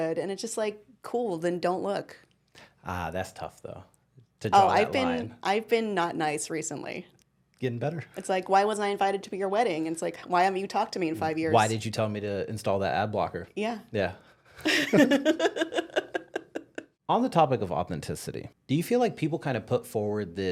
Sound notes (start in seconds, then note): 14.7 laughing